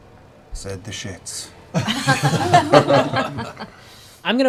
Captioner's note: laughter